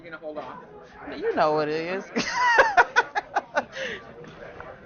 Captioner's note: laughs